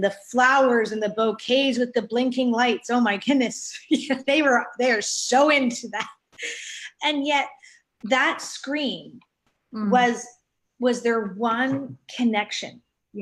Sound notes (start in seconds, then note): 4.2 both laughing